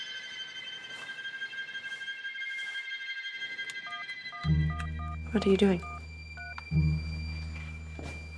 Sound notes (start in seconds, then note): 3.6 cellphone dialing